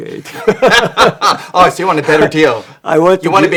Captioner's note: laughs